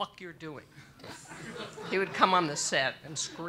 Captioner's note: audience laughs